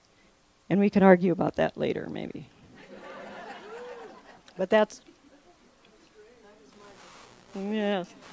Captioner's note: laughter